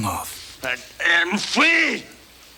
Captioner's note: spits